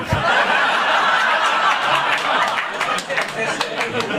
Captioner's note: audience laughing